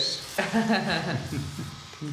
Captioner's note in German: Sie lacht